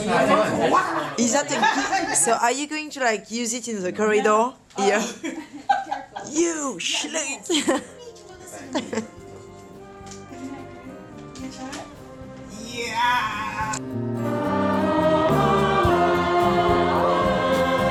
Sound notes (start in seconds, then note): 0.0 laughter; 4.9 laughs; 8.6 chuckles